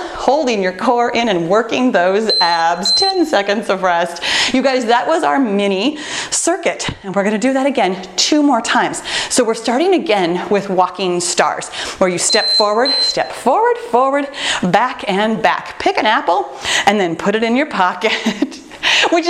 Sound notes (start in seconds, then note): 2.2 timer beeping; 12.2 timer beeping; 18.6 laughs